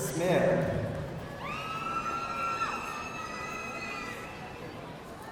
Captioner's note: audience cheering